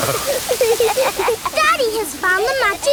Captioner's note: laughing